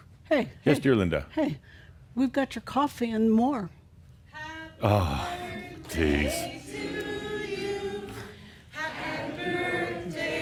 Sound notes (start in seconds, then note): 2.1 Adamus blows out candle and more applause